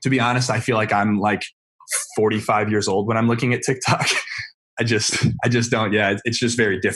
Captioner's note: laughs